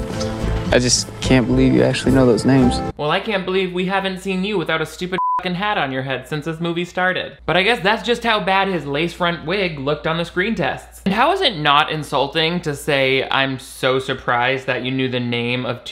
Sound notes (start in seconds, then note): 5.2 beep